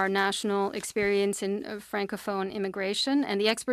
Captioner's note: speaking French